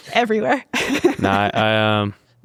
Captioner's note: laughs happily